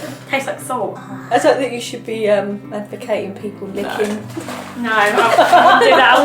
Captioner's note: laughs